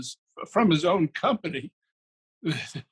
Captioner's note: laughs